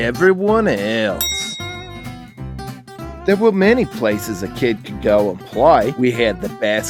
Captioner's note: bell ding